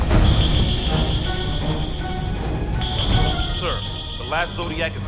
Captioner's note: sonar pinging